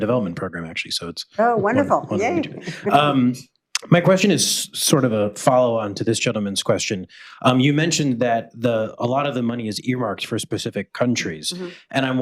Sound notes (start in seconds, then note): 1.5 laughs